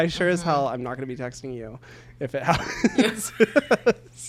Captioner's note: laughs